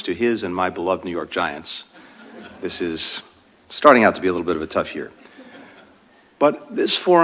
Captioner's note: laughter